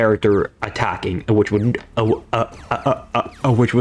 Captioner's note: stutter Moment